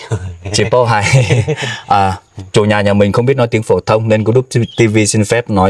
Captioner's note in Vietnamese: tiếng cười